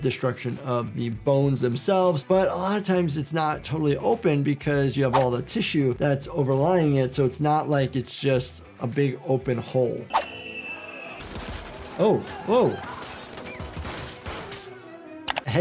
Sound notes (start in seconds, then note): 12.8 gun fires